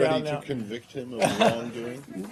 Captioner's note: laughter